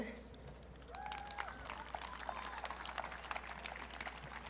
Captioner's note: audience cheering